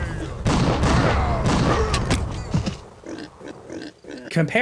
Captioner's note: guns firing